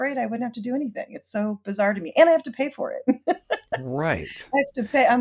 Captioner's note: laughs